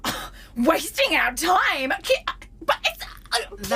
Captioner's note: Aurelia continues to make incredulous noises